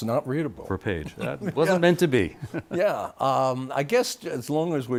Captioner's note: laughter